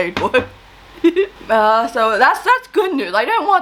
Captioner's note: giggles